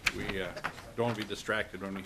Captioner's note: laughter